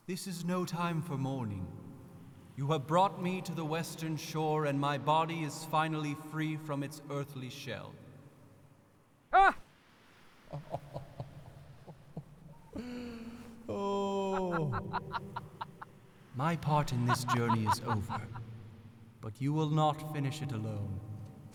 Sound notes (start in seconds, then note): 10.4 Heavenly Lewis chuckles